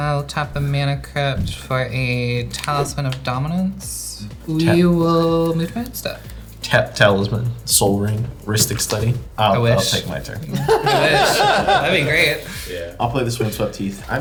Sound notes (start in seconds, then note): 10.4 laughing